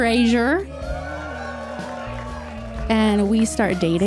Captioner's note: audience cheers